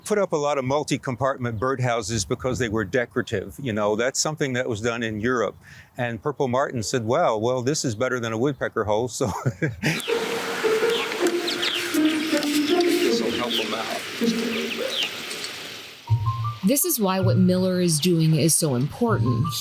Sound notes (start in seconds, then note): 9.2 laughs; 10.0 birds chirping; 10.0 light whimsical music